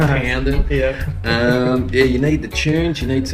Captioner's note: laughs